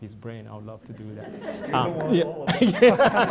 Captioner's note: laughter